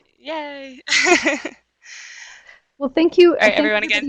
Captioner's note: laughs